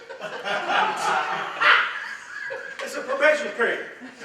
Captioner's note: everyone laughs